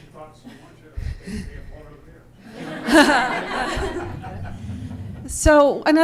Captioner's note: laughter